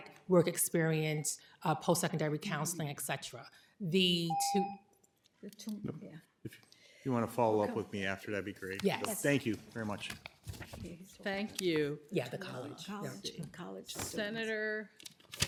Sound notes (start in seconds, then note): 4.2 timer tone